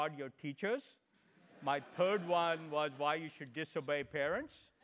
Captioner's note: laugh